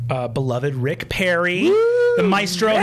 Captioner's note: cheering